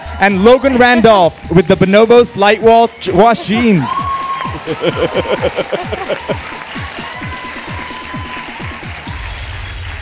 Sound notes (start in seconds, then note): 4.4 laugh